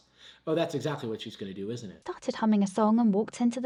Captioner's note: none